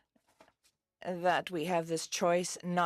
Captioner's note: speaking French